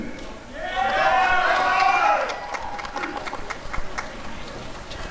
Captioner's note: applause and cheering